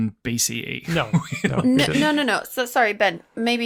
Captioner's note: laughs